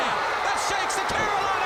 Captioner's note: crowd cheering